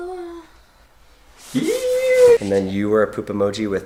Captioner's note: squeals